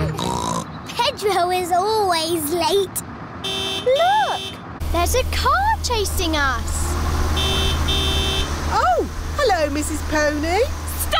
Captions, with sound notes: (SNORTS) Pedro is always late. -(HORN HONKS) -Look, there's a car chasing us! (HONKING CONTINUES) Oh, hello, Mrs. Pony!